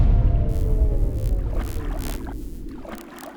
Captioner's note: dolphins clicking